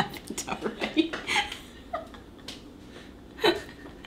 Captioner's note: laughing